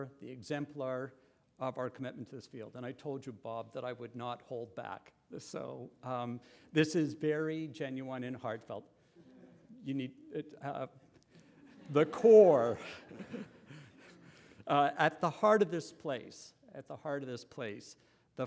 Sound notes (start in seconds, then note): 11.3 laughter